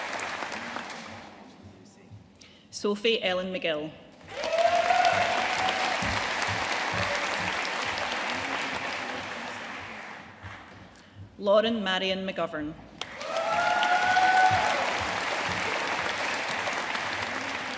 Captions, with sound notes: Sophie Ellen McGill. (AUDIENCE CHEERING AND APPLAUDING) Lauren Marion McGovern. (AUDIENCE CHEERING AND APPLAUDING)